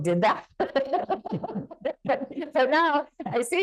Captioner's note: laughing